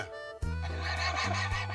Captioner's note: laugh